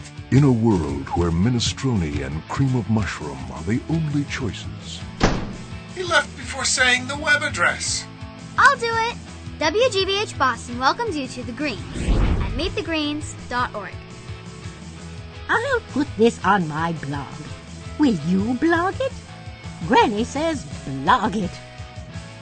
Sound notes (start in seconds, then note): 5.2 door slams; 14.4 theme music